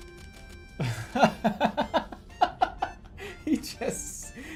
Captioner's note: laughing